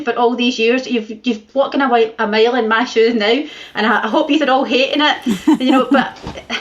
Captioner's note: laughter